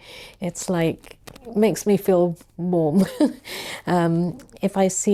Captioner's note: chuckles